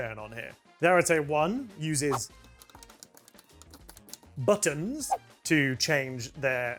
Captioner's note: click, Click, Click